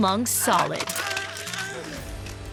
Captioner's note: groaning